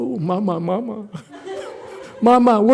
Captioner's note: audience laughs